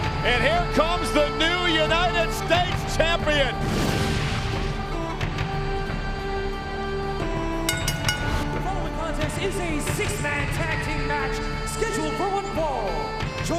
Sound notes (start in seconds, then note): 3.6 upbeat music; 7.6 bell ringing